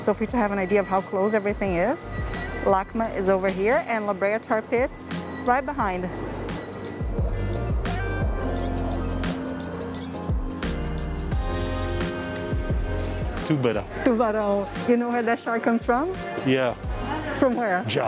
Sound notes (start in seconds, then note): 13.2 in Portuguese